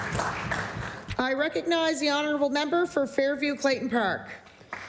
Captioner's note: applause